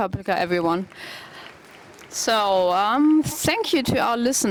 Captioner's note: applause